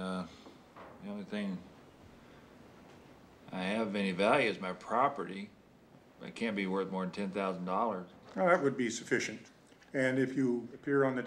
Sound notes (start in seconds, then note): none